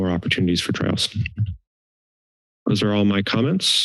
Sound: silence

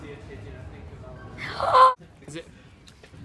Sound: excited squeal

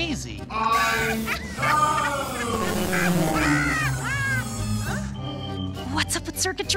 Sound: distorted sounds

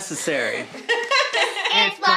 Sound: laughing; upbeat intro music

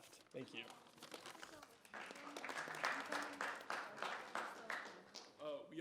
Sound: audience applauding

